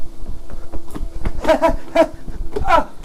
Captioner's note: stoke laughs